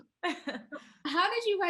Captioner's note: Sarah chuckles